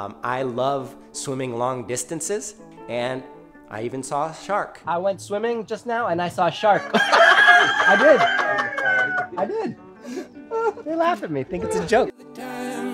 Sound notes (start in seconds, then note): 6.6 laughing